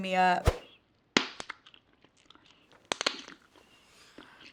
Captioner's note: gum cracking